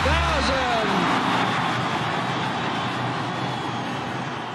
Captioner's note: cheering